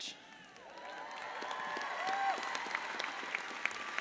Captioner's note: audience applauds